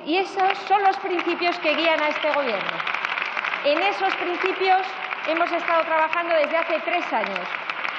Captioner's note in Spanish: Aplausos